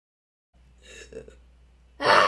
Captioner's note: gasp